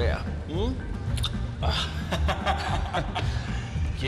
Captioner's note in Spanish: Risas